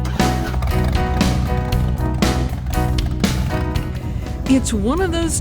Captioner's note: engine revs